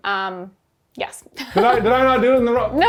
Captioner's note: laughs